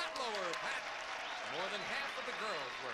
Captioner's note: audience applauding